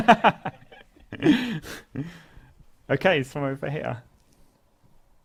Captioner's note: laugh